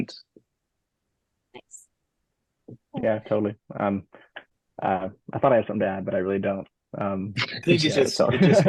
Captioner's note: laughing